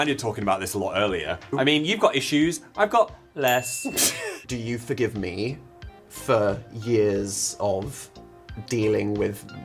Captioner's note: laugh